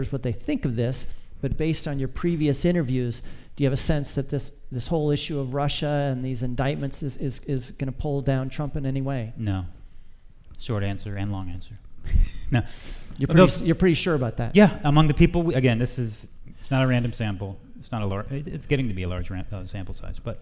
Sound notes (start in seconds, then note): 13.2 laughs